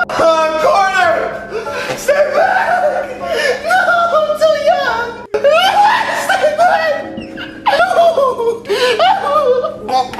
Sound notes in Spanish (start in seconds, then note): 7.7 Llorando